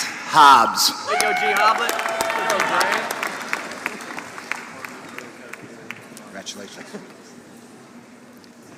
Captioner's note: applause